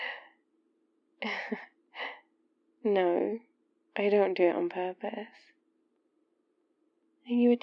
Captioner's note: laughs